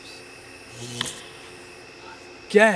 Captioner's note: fuse blows